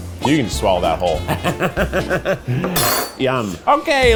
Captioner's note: chuckles